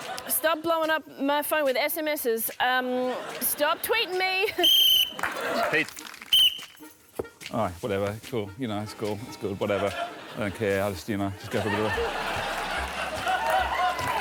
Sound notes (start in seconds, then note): 4.5 whistle blows